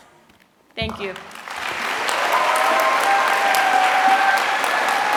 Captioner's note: applause